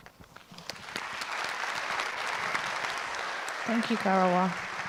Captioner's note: audience applauds